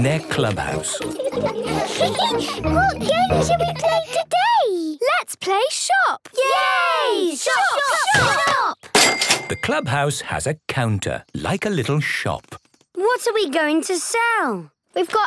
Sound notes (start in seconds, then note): 0.1 giggles